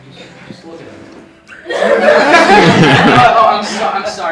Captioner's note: laughter